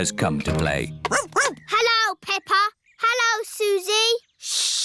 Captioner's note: barks